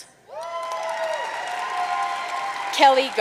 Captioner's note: audience cheering and applauding